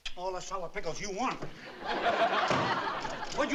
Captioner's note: laughter